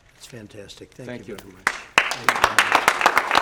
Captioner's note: applause